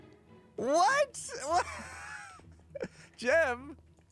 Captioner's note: laughs